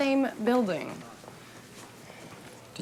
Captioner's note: footstep